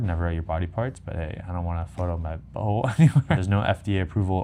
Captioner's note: laughs